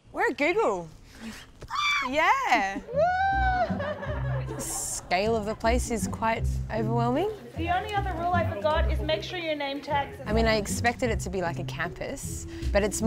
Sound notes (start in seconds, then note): 1.6 squeals; 2.3 laughs